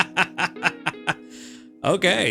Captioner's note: laughs